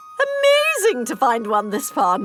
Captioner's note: none